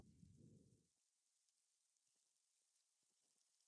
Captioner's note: reverberating snowfall fades in